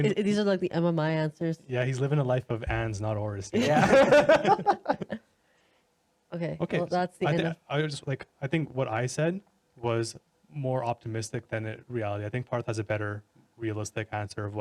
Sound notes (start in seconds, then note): 5.2 laughing